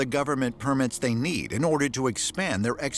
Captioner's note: none